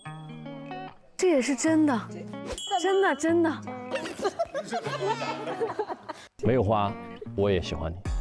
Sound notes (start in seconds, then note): 2.6 laughing like a rooster